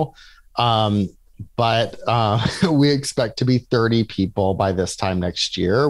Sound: laughs

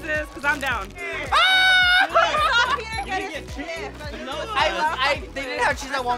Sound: laughing loudly

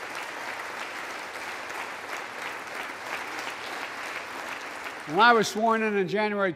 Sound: applause

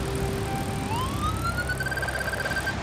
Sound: beeping speeds up

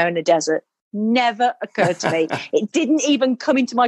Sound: laughing

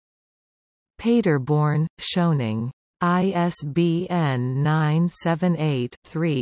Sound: in German

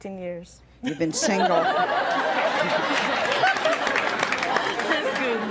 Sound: audience laughs

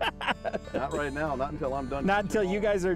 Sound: laughter

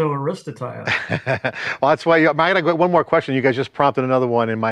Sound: chuckles

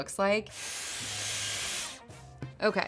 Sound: air tool whooshing

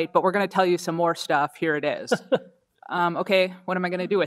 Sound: laughs

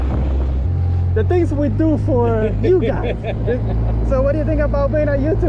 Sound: laughing

